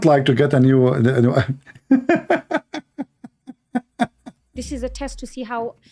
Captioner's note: Ketawa